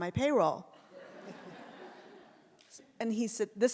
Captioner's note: audience laughs